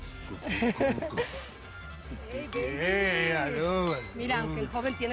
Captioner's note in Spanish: Risas; Tararea